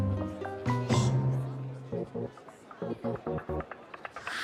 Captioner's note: gasps